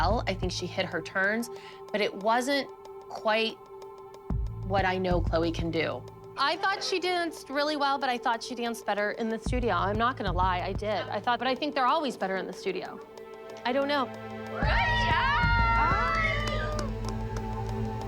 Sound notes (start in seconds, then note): 14.6 cheering